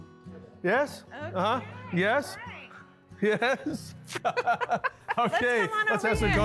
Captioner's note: laughs